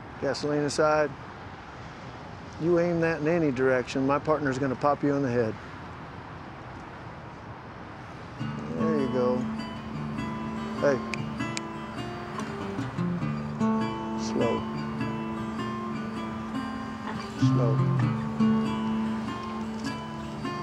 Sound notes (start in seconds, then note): 11.4 snaps fingers; 17.6 guitar strumming